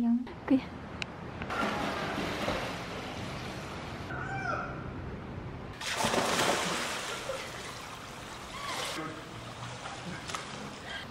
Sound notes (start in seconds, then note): 7.0 laughing